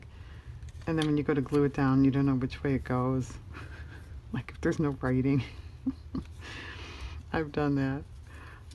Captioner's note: laughs